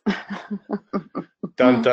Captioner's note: chuckles